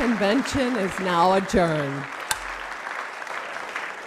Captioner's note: applause